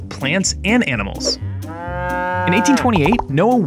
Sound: cow mooing

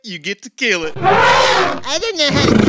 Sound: elephant shriek

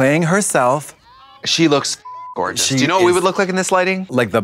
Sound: beep

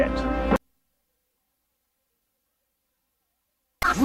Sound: silence

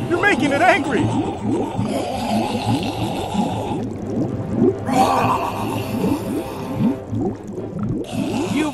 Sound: growling

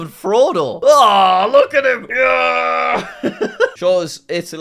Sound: growls and laughs

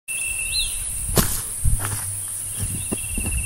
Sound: footsteps

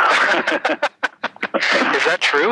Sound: both laughing

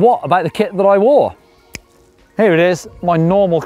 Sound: fingers snap

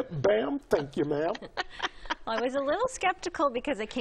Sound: laughs

